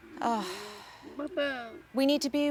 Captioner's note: sighs